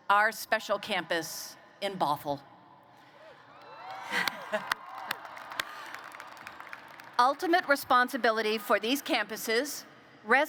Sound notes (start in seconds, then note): 3.5 applause